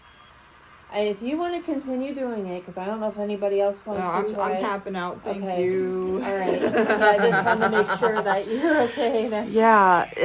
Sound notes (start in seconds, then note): 6.4 everyone laughs